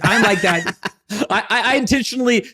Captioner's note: laughing